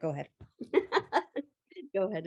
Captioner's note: laughs